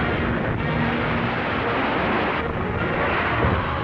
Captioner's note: crashing